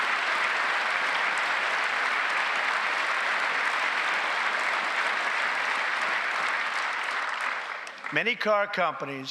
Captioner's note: applause